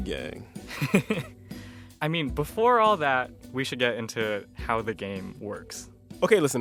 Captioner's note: laughter